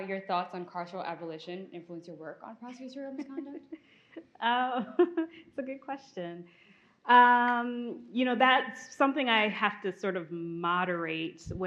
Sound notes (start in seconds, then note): 3.6 host laughs